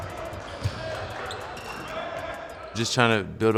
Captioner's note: yelling